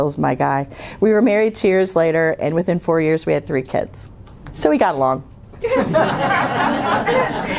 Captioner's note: laughter